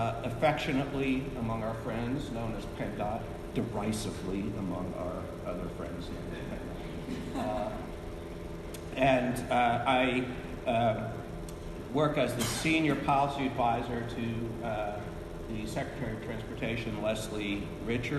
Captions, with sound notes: Affectionately, among our friends, know as PENDOT, derisively among our other friends. (chuckles) (panelists chuckling) And I work as the Senior Policy Advisor to the Secretary of Transportation, Leslie Richards.